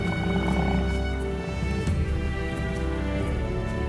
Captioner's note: bison grunting; majestic music